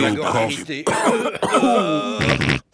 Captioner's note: cough; snort